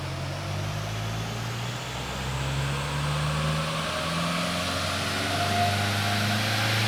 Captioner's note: engine accelerates